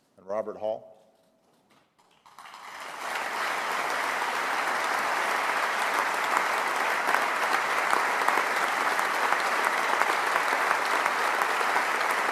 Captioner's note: applause